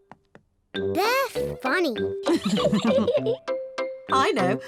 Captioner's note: laughs